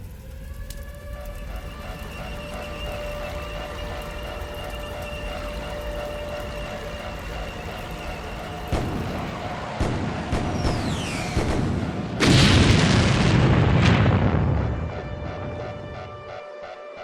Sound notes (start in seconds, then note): 0.2 sirens wail in the distance; 8.7 explosions; 15.2 sirens wail and alarms beep